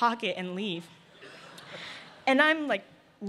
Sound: laughter

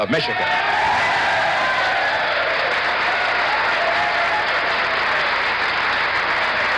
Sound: audience applauding and cheering

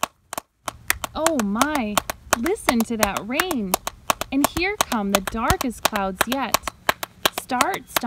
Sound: loud clapping sounds; loud clapping sounds

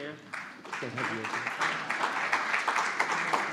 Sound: applause

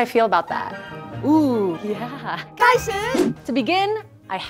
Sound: speaking in mandarin

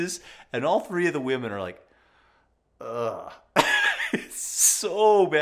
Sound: laughs

